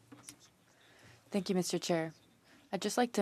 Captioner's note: speaking French